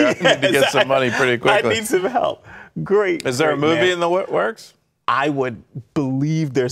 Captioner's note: laughter